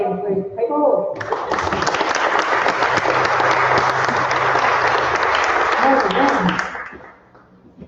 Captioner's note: applause